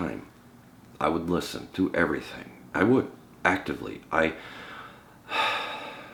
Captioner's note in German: seufzt